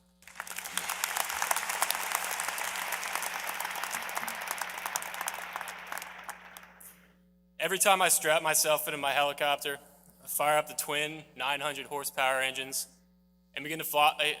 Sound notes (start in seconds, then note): 5.6 applause